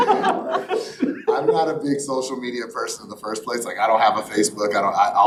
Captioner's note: laughter